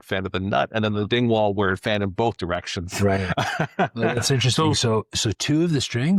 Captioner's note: laughing